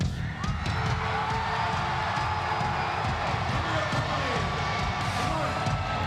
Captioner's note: crowd roaring; moody rock music